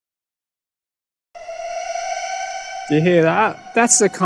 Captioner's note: strange siren sounds